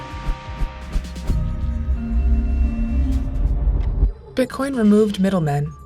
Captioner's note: suspenseful music continues; transition whooshes